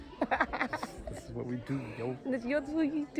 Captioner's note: laughing